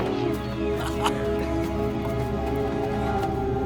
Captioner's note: laughter